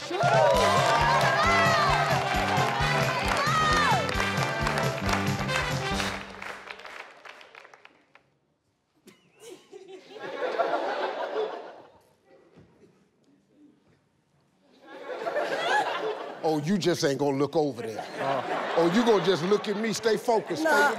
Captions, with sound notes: (upbeat music) (audience rhythmically clapping) (audience laughing) Oh, you just ain't going to look over there, huh? Oh, you going to just look at me, stay focused.